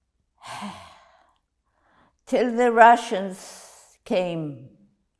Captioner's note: sighing